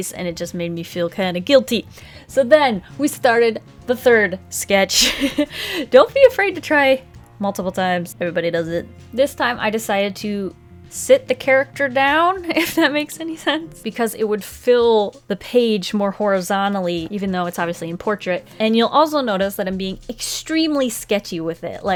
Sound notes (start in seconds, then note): 4.9 laughs